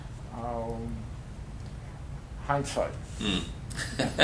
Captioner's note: laughter